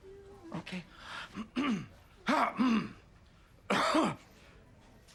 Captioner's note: clears throat